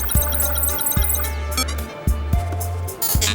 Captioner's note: beeping